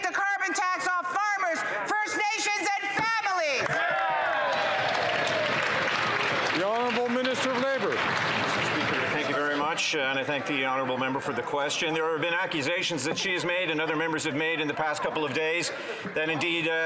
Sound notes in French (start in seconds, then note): 7.6 applaudissements; 12.9 voix de l'interprète